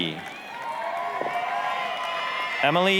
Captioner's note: applause, cheering